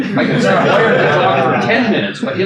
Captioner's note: attendees laugh